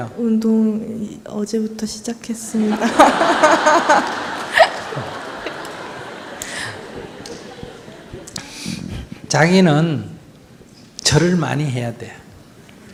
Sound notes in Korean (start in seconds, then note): 2.6 질문자와 청중, 스님 웃음